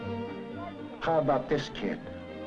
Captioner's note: voiceover